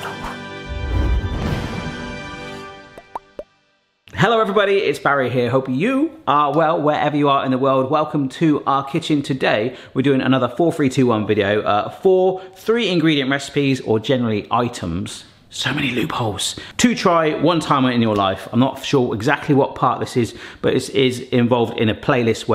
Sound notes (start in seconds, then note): 0.0 upbeat music; 2.8 logo popping